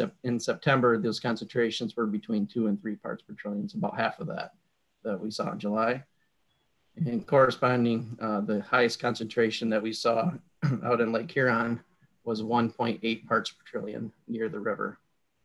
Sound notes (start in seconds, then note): 10.6 clears throat